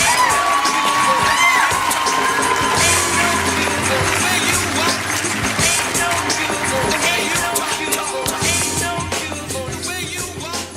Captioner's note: cheering and clapping